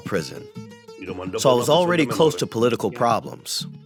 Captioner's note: through translator